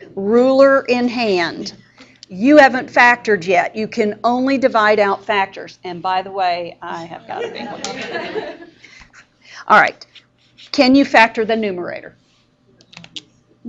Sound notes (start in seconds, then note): 7.3 students laughing